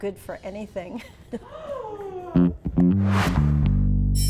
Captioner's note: woman gasps